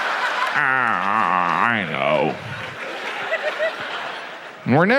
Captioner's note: audience laughs